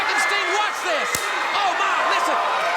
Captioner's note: belt whip cracks